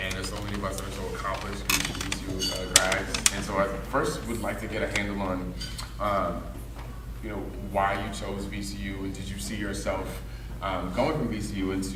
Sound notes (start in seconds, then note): 0.0 rustling drowns out speaker